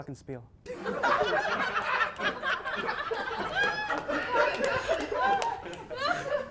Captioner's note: audience laughs + some members can be heard gasping for breath